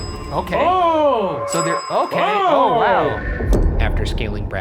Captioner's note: beep; beep